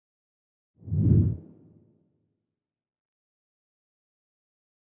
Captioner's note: wind whooshing